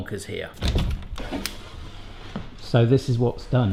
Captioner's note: door opening